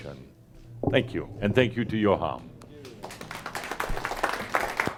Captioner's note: audience applause